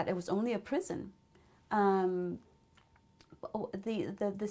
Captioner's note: pauses for 3 seconds